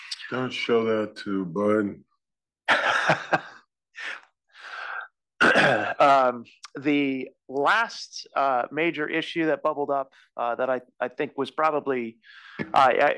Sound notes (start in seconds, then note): 2.7 laugh